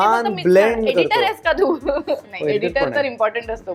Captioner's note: chuckles